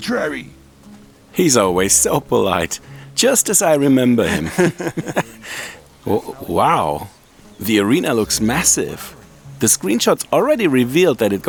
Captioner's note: laughing